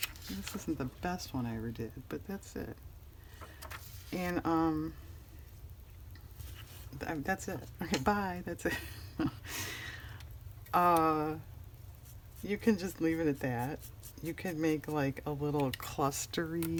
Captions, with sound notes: this isn't the best one i ever did, but that's it that's it, okay bye, that's it (laughs) no you can just leave it at that, you can make like a little cluster,